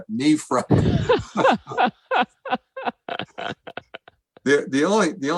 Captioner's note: laughter